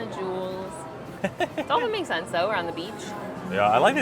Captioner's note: laughs